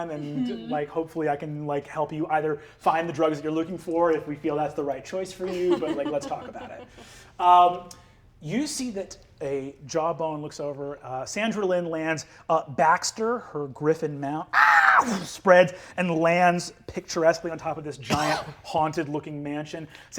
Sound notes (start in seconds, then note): 14.7 caws